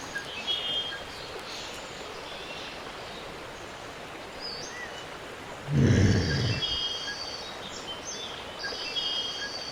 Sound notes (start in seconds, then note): 5.9 woman groaning